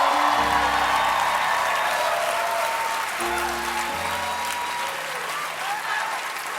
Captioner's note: cheers and applause